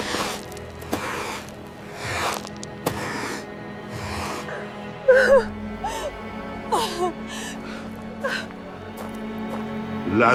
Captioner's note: crying